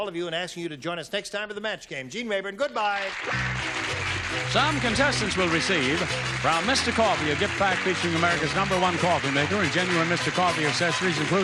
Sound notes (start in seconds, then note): 3.1 applause